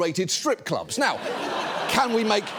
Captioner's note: audience laughs